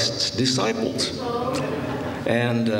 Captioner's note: laughter